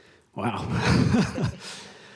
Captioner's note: sighs; laughter